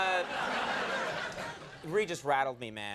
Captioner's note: crowd laughs